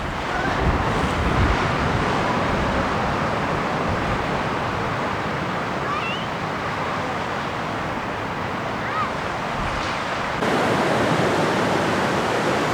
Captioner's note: wind blowing